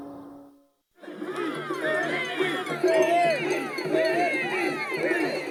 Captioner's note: people shouting